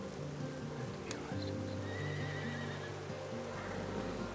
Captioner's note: horse whinnies